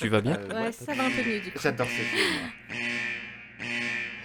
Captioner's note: dilemma alarm sounds